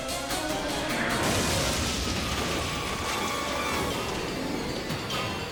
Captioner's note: engine exploding